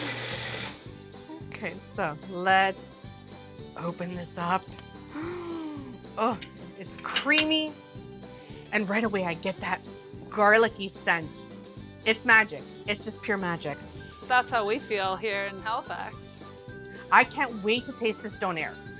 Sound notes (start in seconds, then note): 5.1 gasps